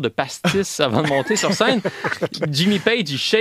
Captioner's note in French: rires